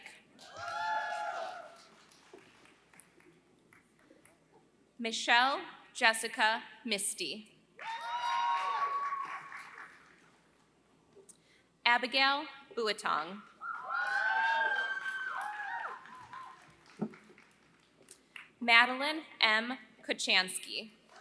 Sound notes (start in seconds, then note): 0.0 applause; 13.6 applause; 21.0 applause